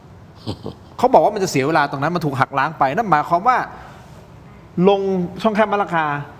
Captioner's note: gasp